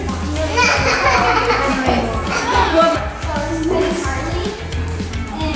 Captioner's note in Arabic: أطفال يتحدثون في الخلفية